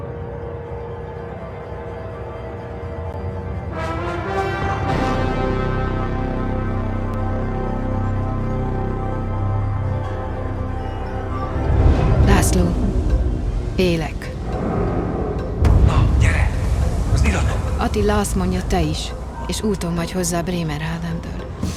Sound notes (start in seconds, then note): 3.3 orchestral fanfare; 12.0 woman, in Hungarian